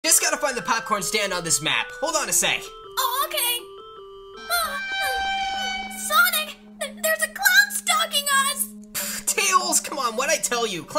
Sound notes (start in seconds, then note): 4.4 creepy noises because Clown